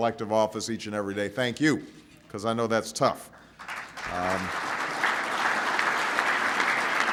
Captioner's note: applause